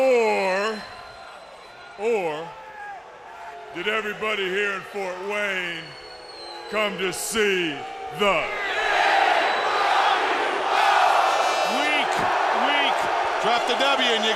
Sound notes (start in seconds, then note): 8.4 crowd cheering